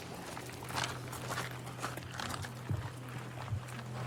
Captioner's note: footsteps crunching